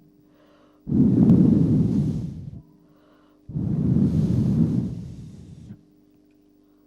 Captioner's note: shri mataji blows into the microphone